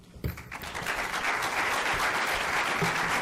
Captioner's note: applauding